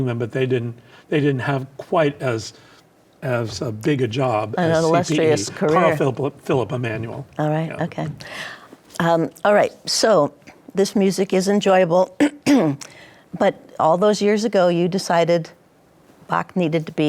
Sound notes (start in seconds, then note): 12.2 clears throat